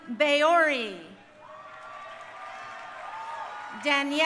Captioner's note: crowd cheering